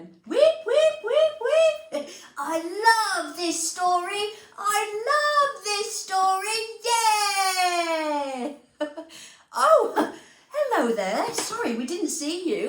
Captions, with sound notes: - Wheep, wheep, wheep, wheep! I love this story! I love this story! Yeah! [Laughter] - Oh hello there, sorry we didn't see you.